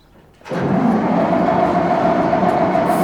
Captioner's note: engine cranking; spraying